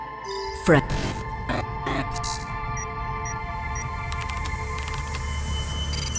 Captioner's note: typing